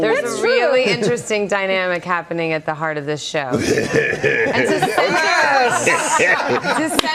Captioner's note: laughter